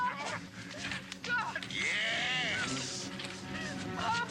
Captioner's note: man laughing